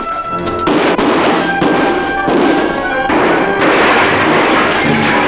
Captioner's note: gunshots firing